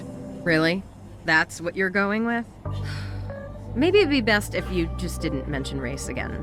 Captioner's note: sigh